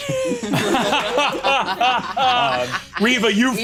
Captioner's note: laughs